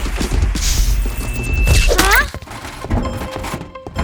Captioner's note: buzzing